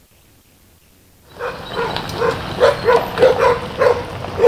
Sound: gravel crunching

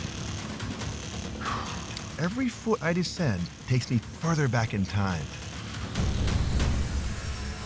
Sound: whew

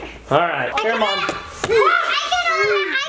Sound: exclaiming

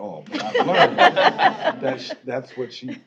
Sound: laughing

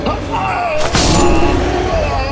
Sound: roars

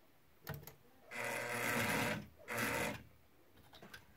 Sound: loud sewing machine sounds

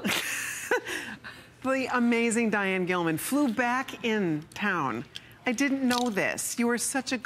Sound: laughter

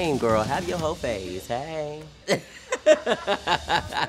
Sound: laughs

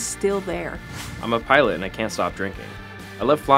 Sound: voiceover

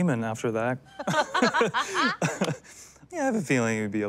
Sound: all laughing

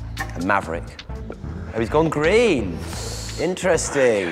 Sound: fabien sucks teeth

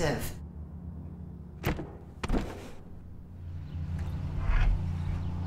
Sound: door rattles

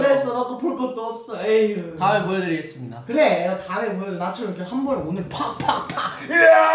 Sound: cue sound effects

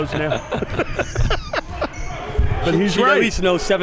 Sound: all laughing

